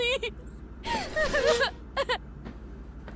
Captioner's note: McGuire's chair scrapes